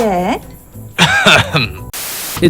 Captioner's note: cough